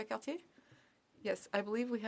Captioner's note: speaking in French